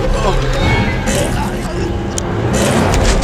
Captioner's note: retches